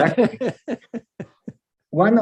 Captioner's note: laughs